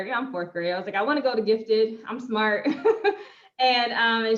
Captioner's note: chuckles